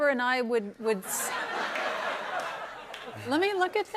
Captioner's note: laughter